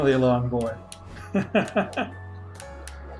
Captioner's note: laughs